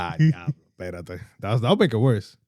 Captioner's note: speaking Spanish